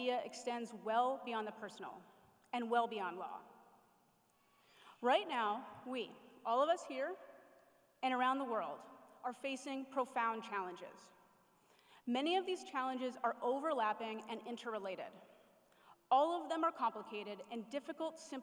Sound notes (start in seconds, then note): none